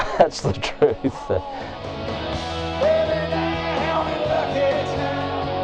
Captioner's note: laughs